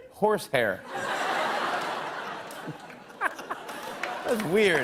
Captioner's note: laughter